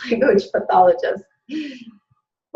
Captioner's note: laughing